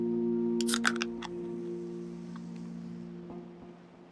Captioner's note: can opening, soda fizzing